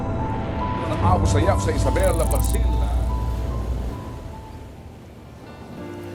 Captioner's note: reporter speaks in foreign language